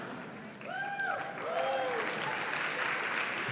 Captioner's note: applause